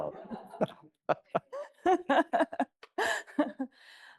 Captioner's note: people laughing